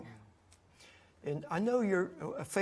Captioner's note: none